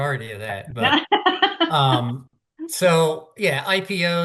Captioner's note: laughing